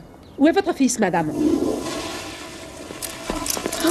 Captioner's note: toilet flushes